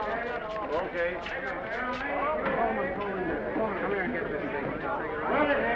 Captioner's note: crew chattering